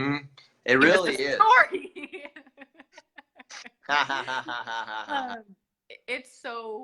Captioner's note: laughter